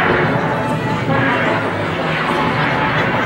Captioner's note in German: Schießerei